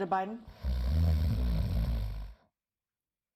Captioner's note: snoring